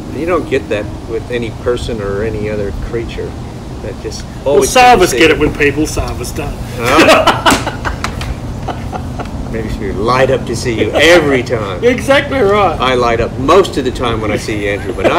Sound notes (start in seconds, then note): 6.7 laughing